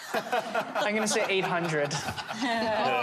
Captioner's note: laughter